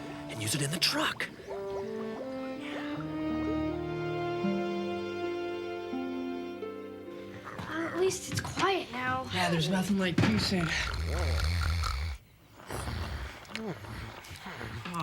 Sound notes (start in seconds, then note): 3.4 uplifting music; 10.6 Opah snores